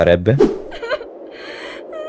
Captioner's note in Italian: whhhhooooooosssshhhhhhh; Ragazza che piange ammirando il panorama